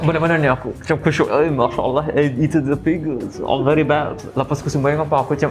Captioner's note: in Arabian accent